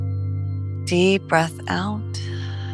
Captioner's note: exhales